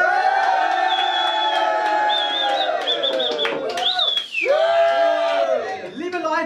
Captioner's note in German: Jubel